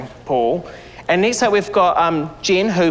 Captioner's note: sighs